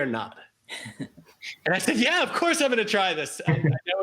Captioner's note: laughs